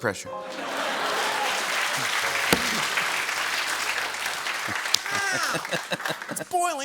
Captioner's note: laughter and applause